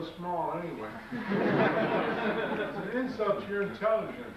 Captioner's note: audience laughs